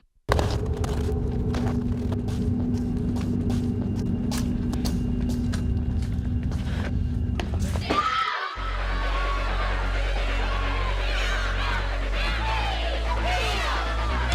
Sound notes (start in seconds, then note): 0.2 dramatic music; 8.6 yelling